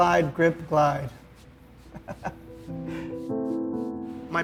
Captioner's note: laughs